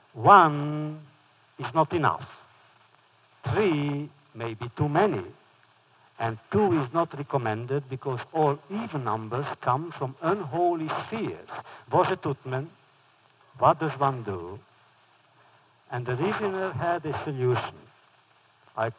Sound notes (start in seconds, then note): 11.7 foreign language